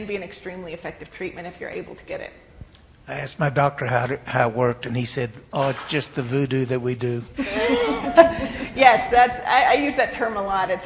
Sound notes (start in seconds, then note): 7.4 laughs